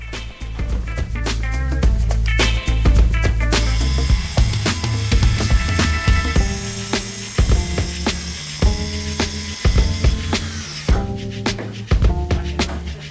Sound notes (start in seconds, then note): 3.6 sawing